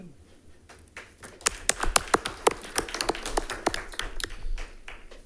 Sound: audience applauding

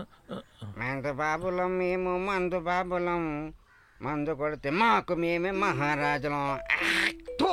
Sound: humming

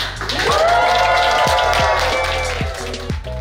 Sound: people cheer happily; upbeat lofi music

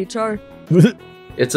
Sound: titters

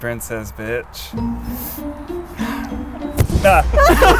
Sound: laughing

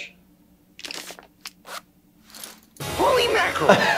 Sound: pants unzipping

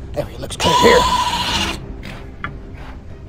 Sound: bird Sounds

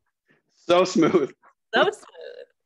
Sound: laughing

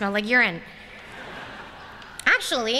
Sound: laughter

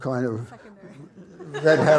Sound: audience laughs

